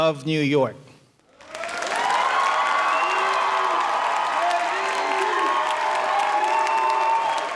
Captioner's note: audience applauding; audience cheering